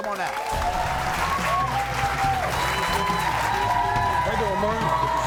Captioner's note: crowd cheers